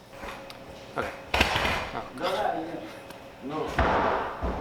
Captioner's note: loud banging